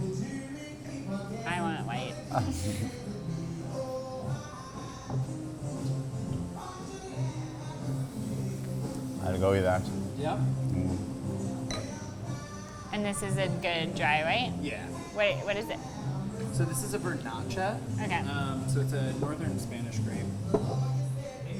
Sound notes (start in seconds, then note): 2.2 chuckles; 11.6 glass clinks